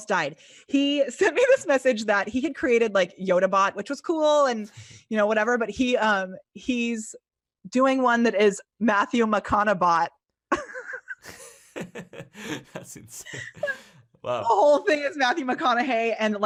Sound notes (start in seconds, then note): 10.5 laughter